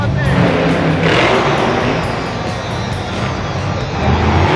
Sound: truck engine revs

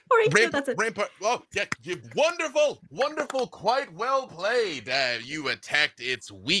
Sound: clapping

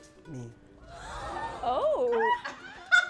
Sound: audience gasps

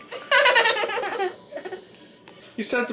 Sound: giggling

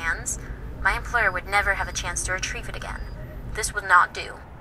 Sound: woman on phone

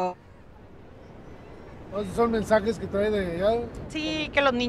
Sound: speaking Spanish

